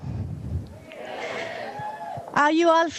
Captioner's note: audience cheers